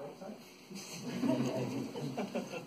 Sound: laughter

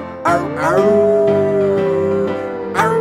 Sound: wolf howling

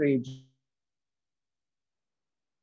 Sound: audio drop

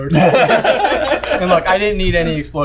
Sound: everyone laughing

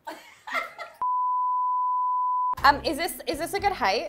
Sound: high pitched beep

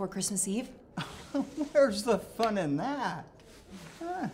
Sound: chuckles

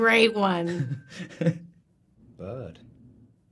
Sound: timer dinging; Dan laughing

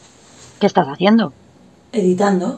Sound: voice-over

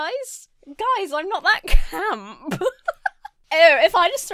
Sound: laughs

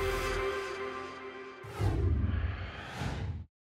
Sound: whoosh

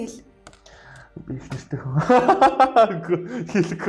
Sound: laughs

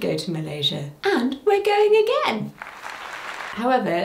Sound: crowd applauding

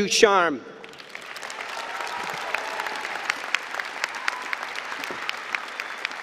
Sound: applause and cheering

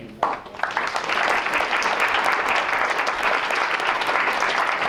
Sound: applause

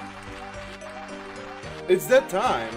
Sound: applause

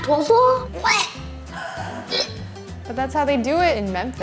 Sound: gagging

